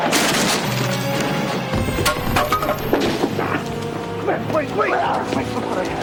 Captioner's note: wood breaking and falling